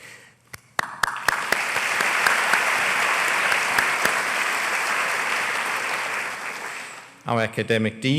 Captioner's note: applause